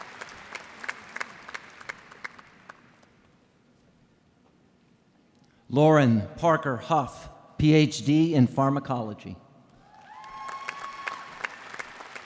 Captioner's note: applause